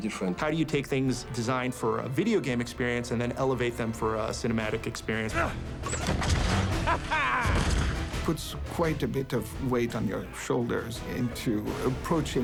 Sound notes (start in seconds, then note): 6.6 laughs